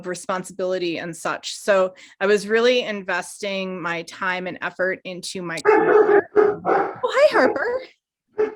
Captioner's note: dog barking